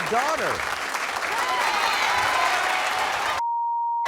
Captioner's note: crowd boos